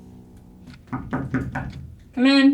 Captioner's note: door knocks